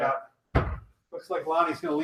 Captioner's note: kettlebell clunks